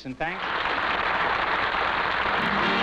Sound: applause

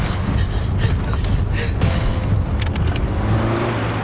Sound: keys rattling

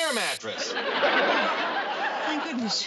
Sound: audience laughing

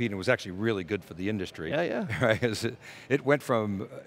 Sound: laughs

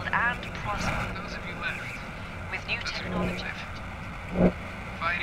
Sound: overlapping radio signals

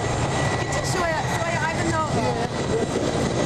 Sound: non-english speech

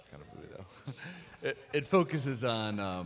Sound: everyone laughs

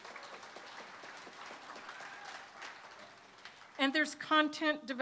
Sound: applause

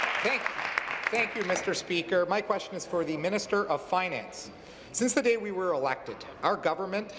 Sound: applause

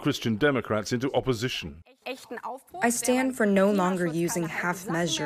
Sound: through translator

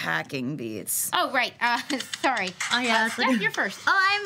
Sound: laughs; techno music

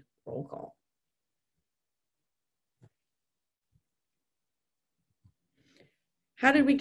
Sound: silence

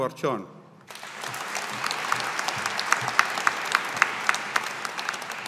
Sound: audience applauding

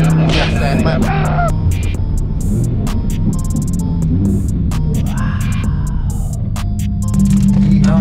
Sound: engine rumbling continues

